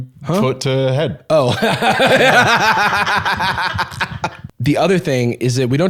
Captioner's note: laughs